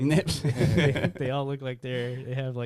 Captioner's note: laughing